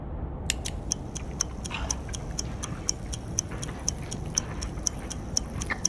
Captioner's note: button clicks; stopwatch clicking